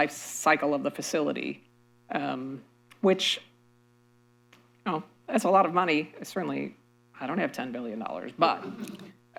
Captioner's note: laughter